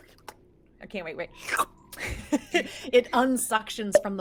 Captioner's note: slurps